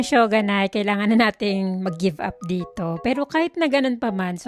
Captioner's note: none